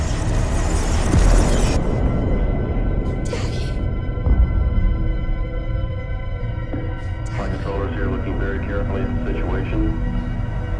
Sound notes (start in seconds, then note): 0.9 boom of explosion